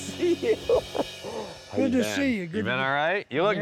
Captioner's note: Mike laughing